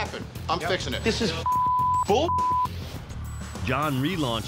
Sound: beep

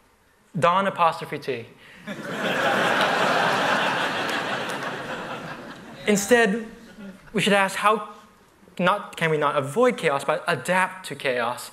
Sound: laughter

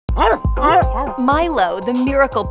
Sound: Milo barking

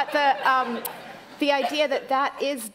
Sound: laughter

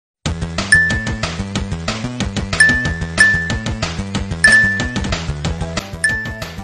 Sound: rapid video game music; dinging

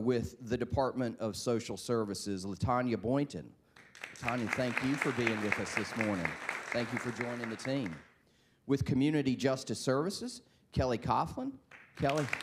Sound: applause

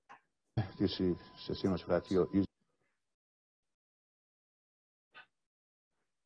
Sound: news anchor speaking in foreign language

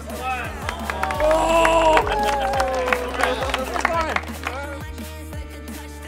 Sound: clapping; cheering

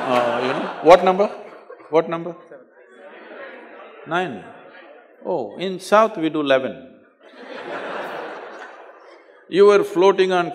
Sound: laughter; laugher

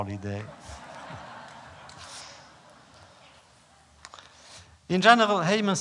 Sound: laughter

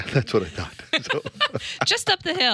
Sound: laughs

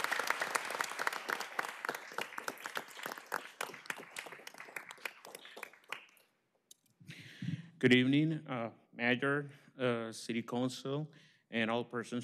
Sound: applause

